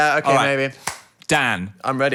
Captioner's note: hands clapping